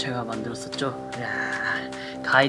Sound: self clapping

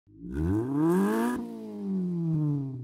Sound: engine revs

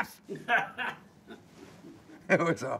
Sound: interviewer laughing

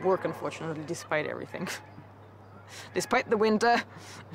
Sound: laughs

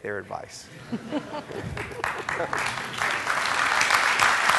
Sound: audience clapping

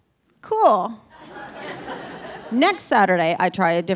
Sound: audience laughing

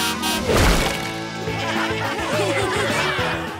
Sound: laughing

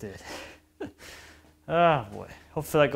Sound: chuckles

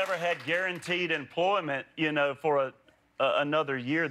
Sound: applause

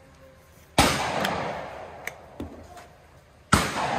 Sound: gun bangs

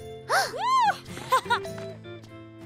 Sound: laughs

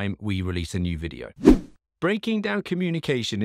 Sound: swooshing sound

